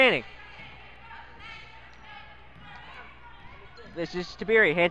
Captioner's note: crowd talking